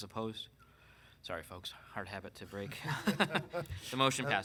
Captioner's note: laughs